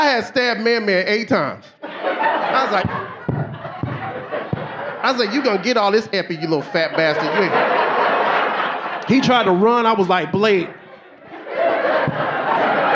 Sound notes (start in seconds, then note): 2.6 mic banging; 5.1 audience laughing; 8.9 audience laughing